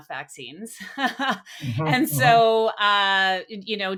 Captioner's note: laughs